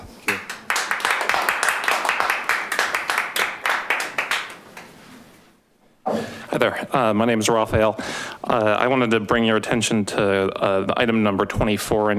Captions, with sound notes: (audience applauding) - Hi there, my name is Rafael. I wanted to bring your attention to the item number 24